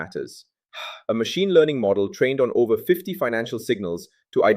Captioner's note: sighs